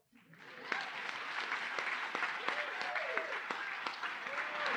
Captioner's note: applause